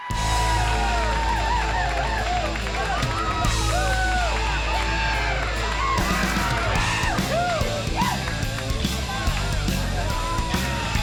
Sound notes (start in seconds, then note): 0.2 upbeat music; 3.6 audience cheers